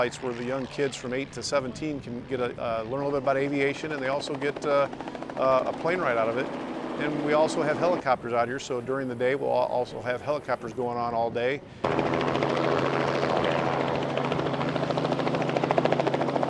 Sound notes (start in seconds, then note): 11.6 helicopter sounds